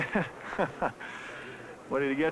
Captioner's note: laughing